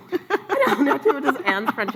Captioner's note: laughs